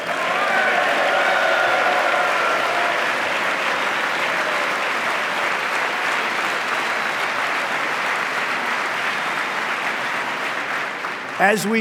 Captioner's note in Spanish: aplauso